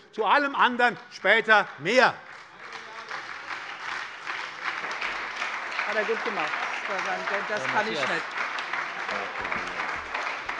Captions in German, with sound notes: Zu allem anderen später mehr. [Beifall bei der SPD]